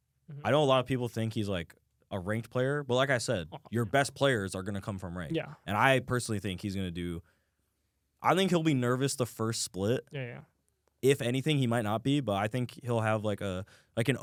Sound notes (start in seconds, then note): none